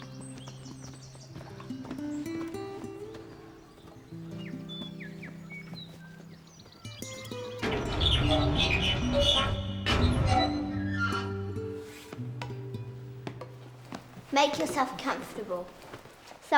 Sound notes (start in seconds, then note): 0.1 somber music; 7.3 hinges squeaking